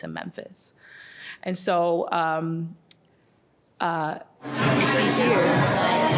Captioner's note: crowds talking